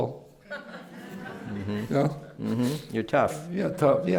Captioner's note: laughter